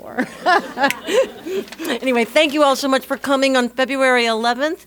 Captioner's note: laugh